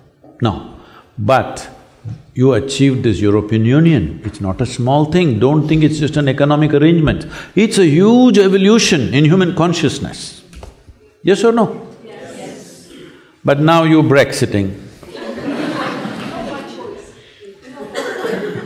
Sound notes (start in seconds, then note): 15.0 laughter